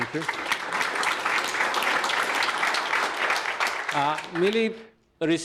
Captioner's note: audience applauds